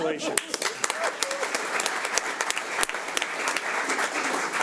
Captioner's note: audience applauds